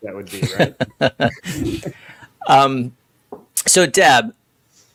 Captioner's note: laugh